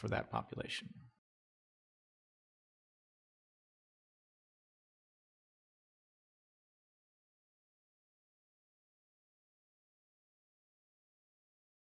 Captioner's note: silence